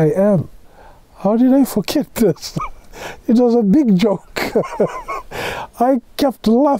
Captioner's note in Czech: smích